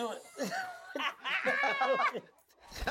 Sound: laughter

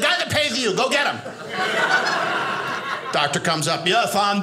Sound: audience laughing

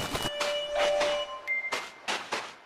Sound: footsteps

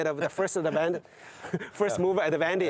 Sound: laughs

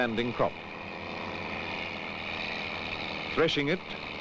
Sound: sound of machinery

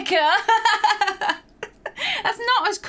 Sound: laughing

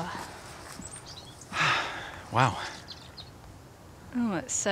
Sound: sighs

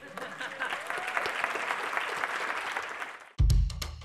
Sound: applause

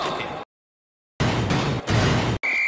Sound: silence; referree whistle

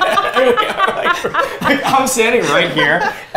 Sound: laughter

